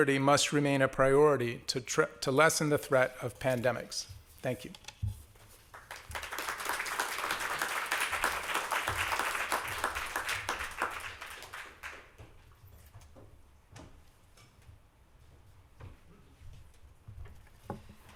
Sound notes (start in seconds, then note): 5.6 applause